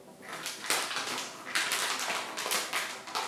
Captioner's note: bag crinkles